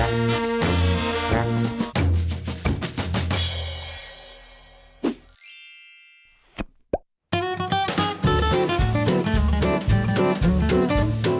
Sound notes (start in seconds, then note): 5.2 chimes; 7.3 upbeat orchestral music